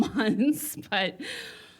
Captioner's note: chuckles